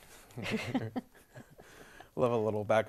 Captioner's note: laughing